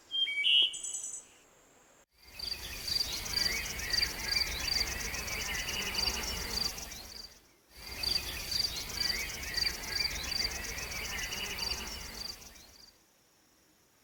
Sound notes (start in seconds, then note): 2.5 birds chirping; 2.5 insects buzzing